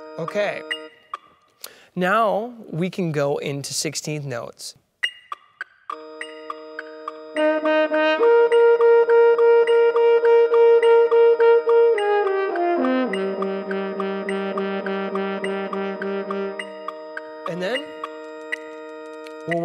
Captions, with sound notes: OK. Now we can go into 16th notes. (metronome beats) And then